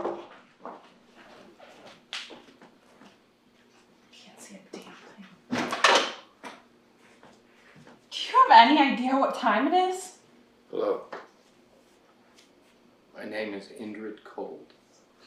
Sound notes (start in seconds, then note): 0.1 camera thuds; 5.6 door opens